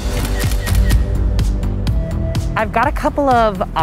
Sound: camera clicks

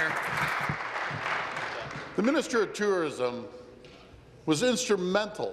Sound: applause

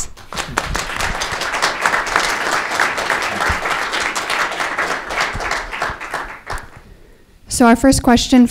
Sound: applause

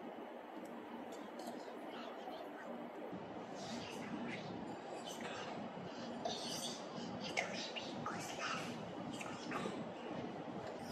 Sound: whispers

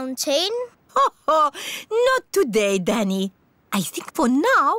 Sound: laughs

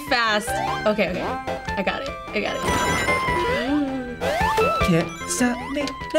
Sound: gasps

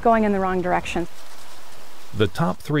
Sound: sound of plants rattling in breeze

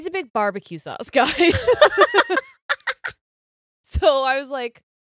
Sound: both laugh

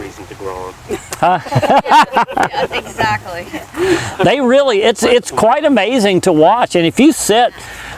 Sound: laughter

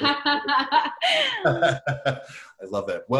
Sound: laughs

